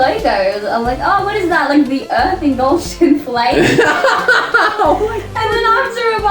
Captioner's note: laughs